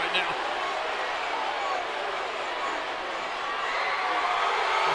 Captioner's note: crowd exclaiming